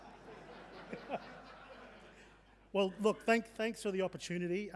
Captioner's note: audience laughing